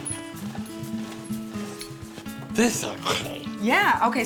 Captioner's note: cranking sound